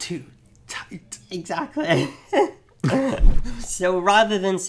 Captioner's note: laughs